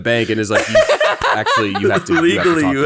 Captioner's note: laughing loudly